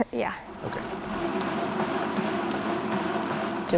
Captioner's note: treadmill whirring